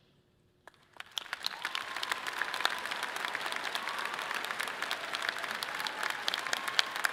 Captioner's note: audience clapping and cheering loudly